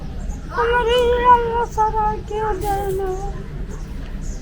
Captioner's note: sobs